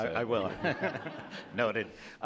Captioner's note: audience laughs